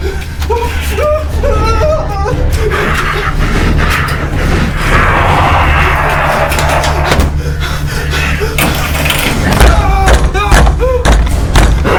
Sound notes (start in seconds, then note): 4.6 Henrietta roaring; 9.5 Henrietta pounding on door